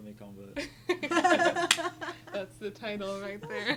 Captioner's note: group laughing